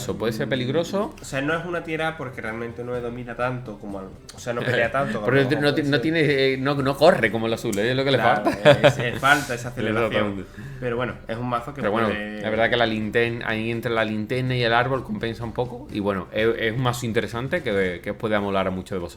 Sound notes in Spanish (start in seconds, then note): 8.2 risas